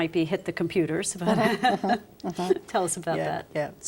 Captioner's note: laughter